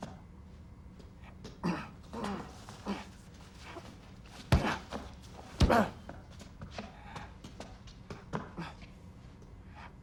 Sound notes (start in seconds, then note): 4.0 grunting, straining